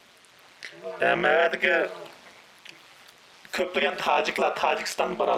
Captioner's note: speaks in foreign language